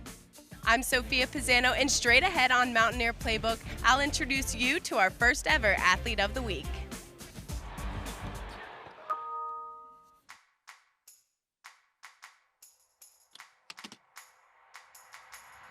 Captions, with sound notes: - I'm Sophia Pisano, and straight ahead on Mountaineer Playbook, I'll introduce you to our first ever Athlete of the Week. (upbeat music) (ding) (upbeat music)